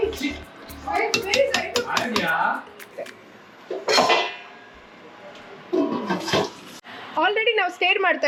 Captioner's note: background noise... lid closing.. music